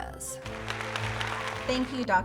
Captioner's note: applause